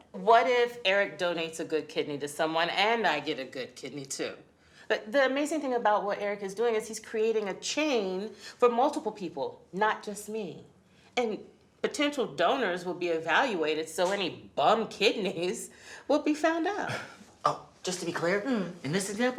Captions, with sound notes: donates a good kidney to someone and I get a good kidney too? But the amazing thing about what Eric is doing is he's creating a chain for multiple people, not just me. And potential donors will be evaluated, so any bum kidneys (laughs) will be found out! - Oh, just to be clear, in this example,